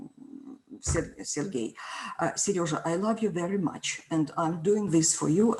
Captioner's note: speaks foreign language